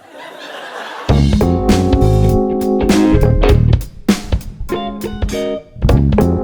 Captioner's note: audience laughing